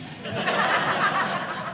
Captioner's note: audience laughing